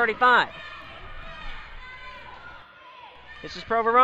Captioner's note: crowd talking and yelling